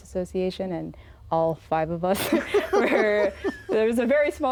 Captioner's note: all laugh